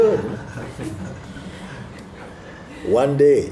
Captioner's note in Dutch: gelach